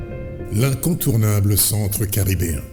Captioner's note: speaking french